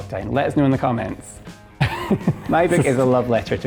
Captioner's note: laughs